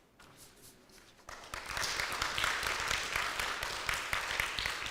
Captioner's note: audience applauds